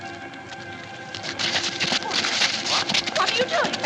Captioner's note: scuffling